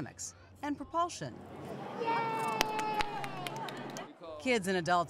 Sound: claps

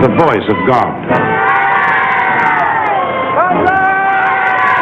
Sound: upbeat music; children cheering

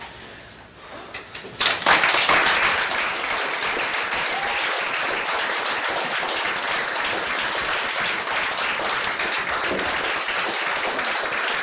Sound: applause

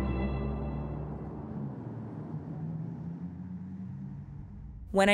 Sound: muted city traffic rumbling

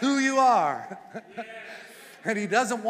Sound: giggling

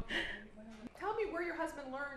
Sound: chuckles

